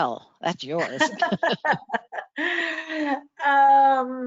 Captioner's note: both laugh